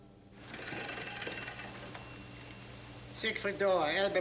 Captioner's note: telephone rings